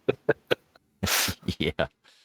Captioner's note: both laughing